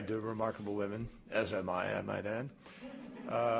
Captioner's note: laughter